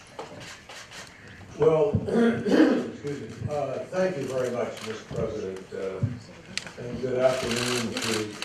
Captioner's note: coughing